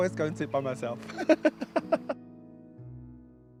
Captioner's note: laughs